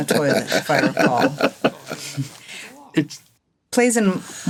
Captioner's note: all laughing